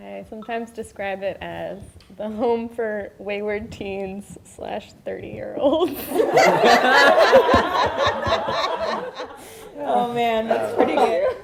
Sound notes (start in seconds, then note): 6.0 all laugh